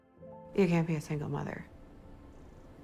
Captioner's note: voiceover